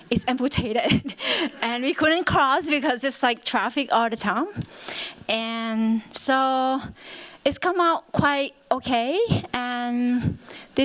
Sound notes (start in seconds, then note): 0.7 chuckles